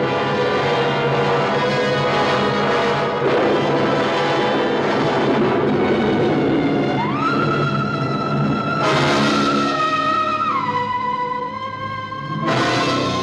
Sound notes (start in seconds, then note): 1.8 thunderclap crashing